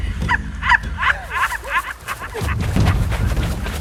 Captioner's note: supernatural sounds